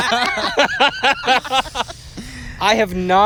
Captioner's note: laughter